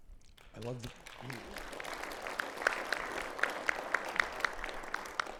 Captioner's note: audience applauding